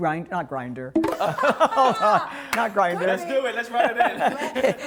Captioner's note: laughter